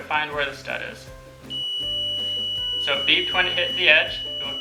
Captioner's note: stud finder beeping